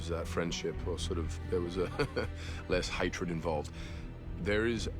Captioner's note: chuckling